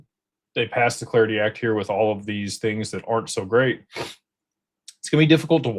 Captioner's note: snorts